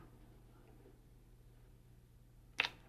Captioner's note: kiss